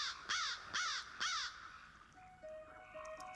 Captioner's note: bird cawing